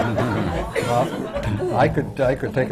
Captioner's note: laughter